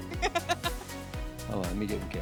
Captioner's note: laughing